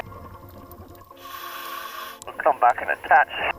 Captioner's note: apparatus inhales